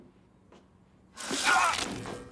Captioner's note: Daniel screams